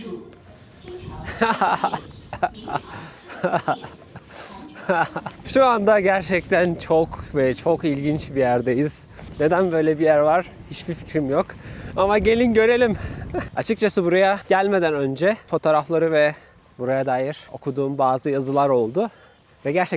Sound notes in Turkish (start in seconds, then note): 1.2 kahkaha